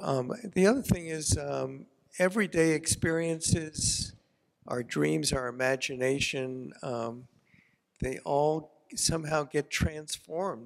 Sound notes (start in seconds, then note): none